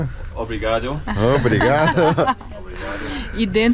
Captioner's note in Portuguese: risos